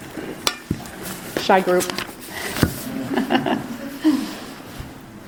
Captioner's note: laughs